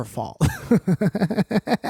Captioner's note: giggles